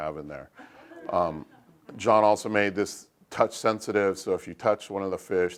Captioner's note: laugh